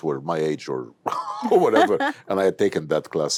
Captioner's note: laughs